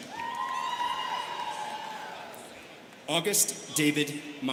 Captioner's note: students cheering